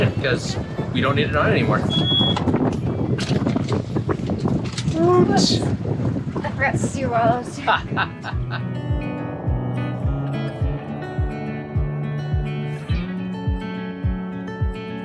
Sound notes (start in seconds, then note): 1.8 engine beeping; 7.5 laughs